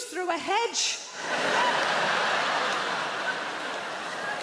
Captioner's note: crowd laughs